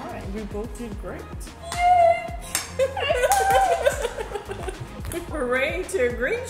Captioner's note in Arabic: يضحك